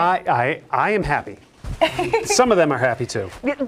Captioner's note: laughing